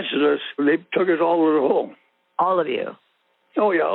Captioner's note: over the Phone